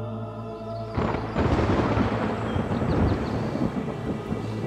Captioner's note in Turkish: Gök gürültüsü efekti